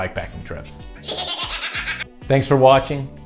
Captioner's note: demonic laughing